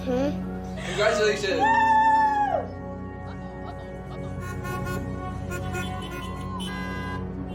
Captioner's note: car horns honking